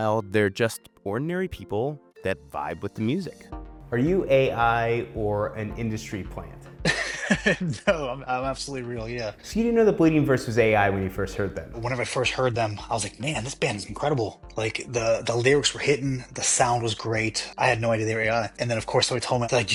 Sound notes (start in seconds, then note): 6.9 laughs